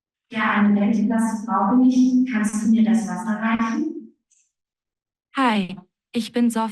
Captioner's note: non-english speech